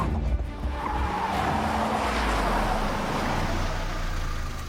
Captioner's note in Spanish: Chirrido de llantas